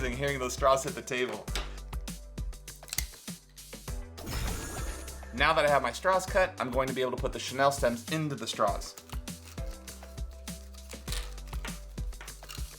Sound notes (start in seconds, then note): 2.8 straws popping; 9.4 bright upbeat music